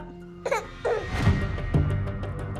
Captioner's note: tense rhythmic music; baby fusses